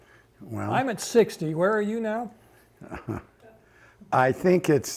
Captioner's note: chuckles